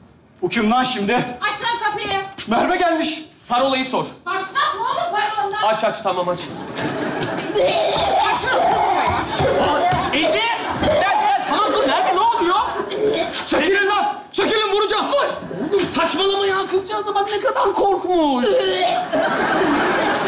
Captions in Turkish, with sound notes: -Bu kim lan şimdi? -Aç lan kapıyı. -Merve gelmiş. -Parolayı sor. -Başlatma oğlum parolandan. -Aç aç. Tamam aç. Gel sene kız buraya. -Ece! Bir dakika. Tamam dur. Merve ne oluyor? -Çekilin lan. Çekilin vuracağım. -Vur. -Oğlum saçmalama ya. Kızcağıza bak ne kadar korkmuş. (Zombi sesi çıkararak tepki verir)